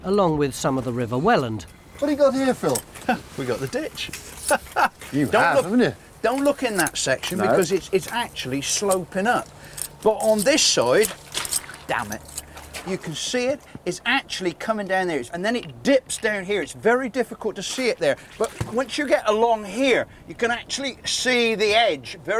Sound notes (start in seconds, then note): 4.3 laughs; 11.5 water splashing